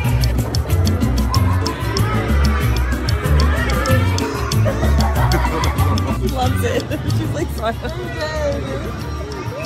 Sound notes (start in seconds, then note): 0.0 patrons chattering; 4.6 patrons laughing; 7.9 laughing